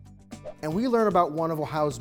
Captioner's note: screen whooshing